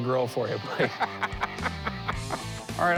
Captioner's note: laughs